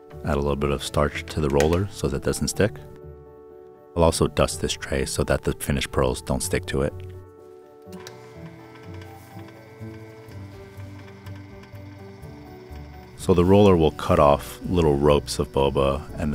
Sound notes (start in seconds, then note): 7.9 machine whirring